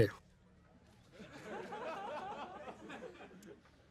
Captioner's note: audience laughing